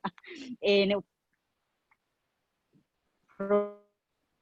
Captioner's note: internet warble